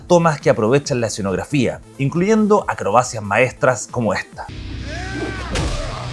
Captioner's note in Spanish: grito